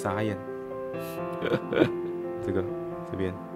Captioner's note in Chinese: 苦笑